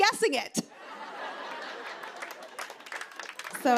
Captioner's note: laughter